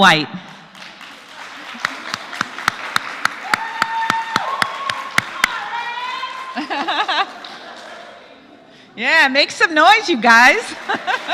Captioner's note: applause; laugh